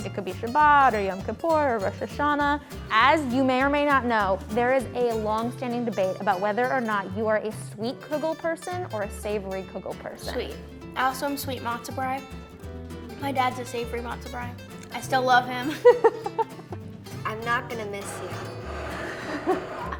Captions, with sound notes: It could be Shabbat or Yom Kippur or Rosh Hashana. As you may or may not know, there is a long standing debate about whether or not you are a sweet kugel person or a savory kugel person. - Sweet. Awesome, sweet matzo bread. My dad's a savory matzo bread. I still love him (chuckles). (interviewer laughs) - I'm not gonna miss you. (interviewer laughs)